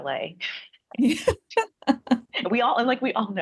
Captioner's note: laughs